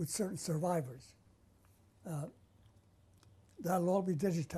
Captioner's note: pauses for 3 seconds